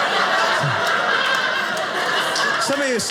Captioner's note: audience laughing